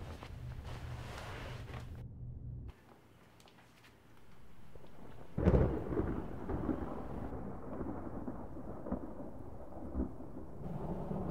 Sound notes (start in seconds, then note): 4.2 thunder rumbling